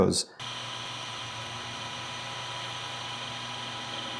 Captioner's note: machinery whirring